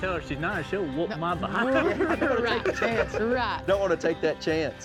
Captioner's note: laughs